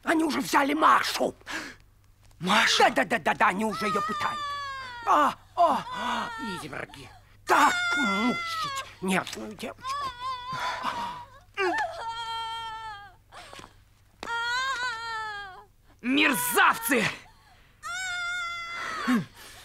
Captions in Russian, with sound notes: Они уже взяли Машу! — Машу?! — Да-да-да-да-да. Они уже её пытают. (женские крики) — Ох! Ох! Изверги! Так мучать нежную девочку! (женские крики и плач) Мерзавцы! (крики продолжаются)